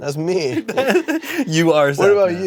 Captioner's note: laughs